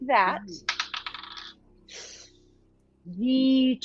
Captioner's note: dice clacking